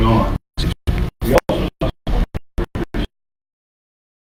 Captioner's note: audio cutting out